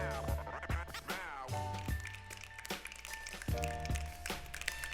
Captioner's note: snapping